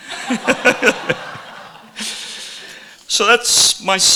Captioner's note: audience laughing